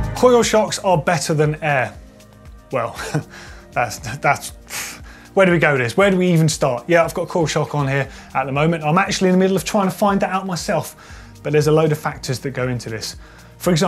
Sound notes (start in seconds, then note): 2.8 he scoffs